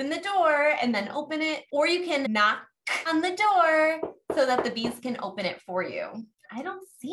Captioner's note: knock, Knock